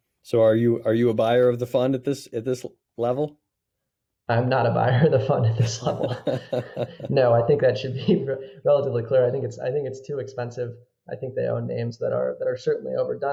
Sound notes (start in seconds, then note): 5.5 chuckles